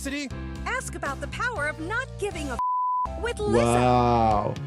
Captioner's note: beep